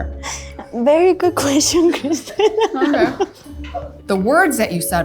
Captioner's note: laughs